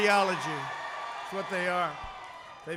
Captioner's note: applause